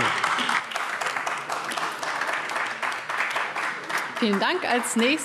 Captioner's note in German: Beifall AfD